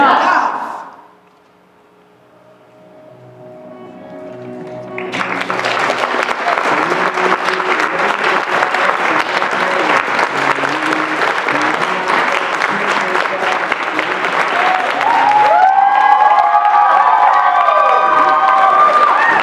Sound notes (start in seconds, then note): 6.2 applause; 14.7 cheers